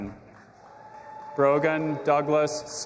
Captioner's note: audience applauding and cheering